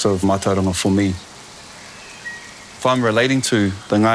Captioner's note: rain sounds